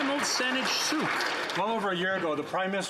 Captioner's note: some Applause